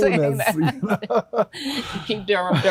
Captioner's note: everyone chuckles